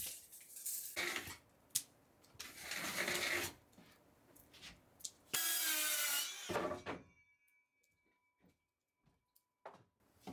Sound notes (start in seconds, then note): 5.4 circular saw